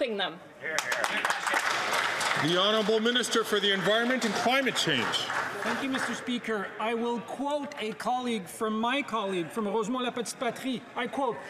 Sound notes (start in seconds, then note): 6.0 some Applause